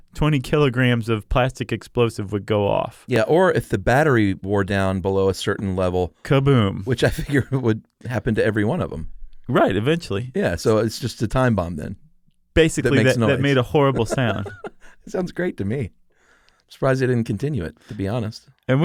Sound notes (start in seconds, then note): 12.9 laughs